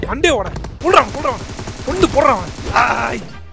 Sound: shouts

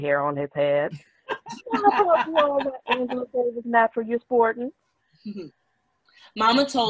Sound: laughing drowns out all other sound

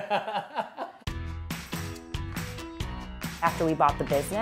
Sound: laughs

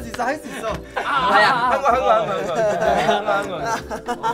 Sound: exclaims in pain

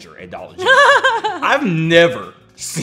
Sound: laughing

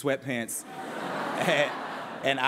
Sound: laughter

